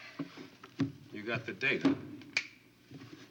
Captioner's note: Kelly snaps